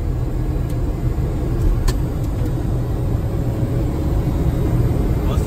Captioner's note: engine roaring